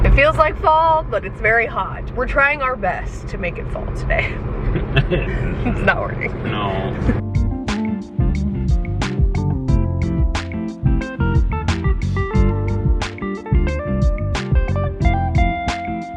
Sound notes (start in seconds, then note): 4.7 laughs; 7.7 smooth jazz music; 12.1 smooth jazz music continues